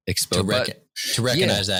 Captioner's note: none